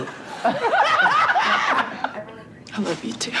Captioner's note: laughs